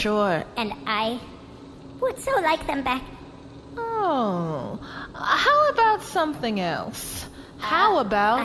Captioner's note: pleadingly